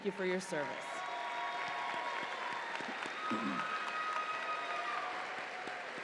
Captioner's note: audience applauds and cheers